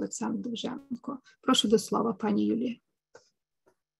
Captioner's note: speaking ukrainian